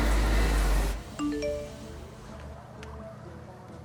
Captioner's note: phone chimes